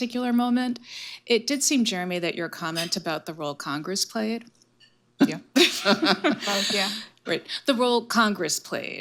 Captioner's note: laughter